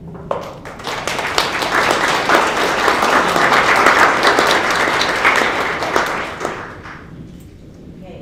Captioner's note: applause